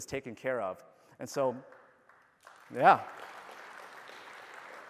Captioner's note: applause